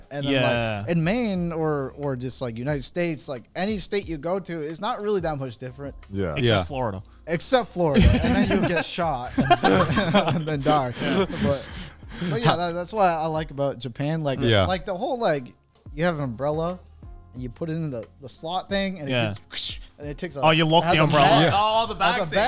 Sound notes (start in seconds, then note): 9.2 men laughing